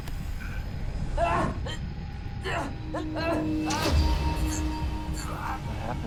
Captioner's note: eerie music continues; Adam groaning